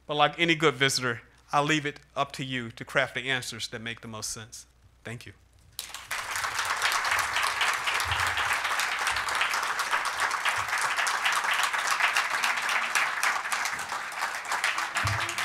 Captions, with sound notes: But like any good visitor, I leave it up to you to craft the answers that make the most sense. Thank you. [APPLAUSE]